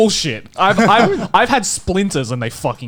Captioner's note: laughing